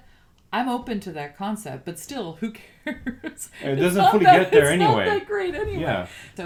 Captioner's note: laugh